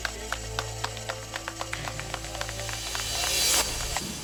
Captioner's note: applause